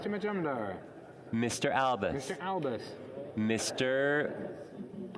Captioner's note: speaking French